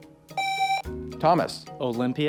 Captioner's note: buzzer